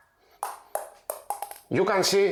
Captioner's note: ball tapping